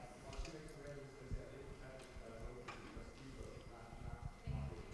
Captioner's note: audience chattering